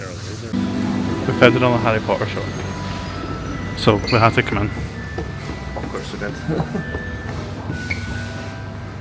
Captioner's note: giggles